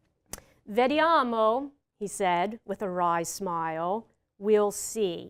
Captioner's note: speaking italian